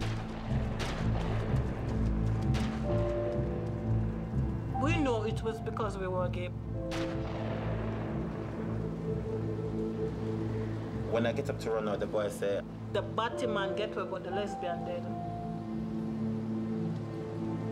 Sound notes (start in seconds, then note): 1.4 gunshots; 6.8 gunshot